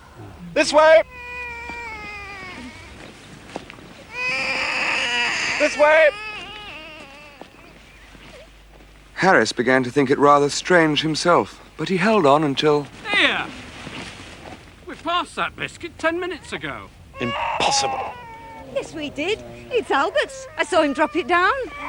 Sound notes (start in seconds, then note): 4.0 baby wailing